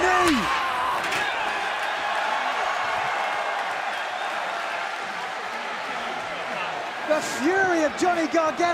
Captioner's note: crowd cheering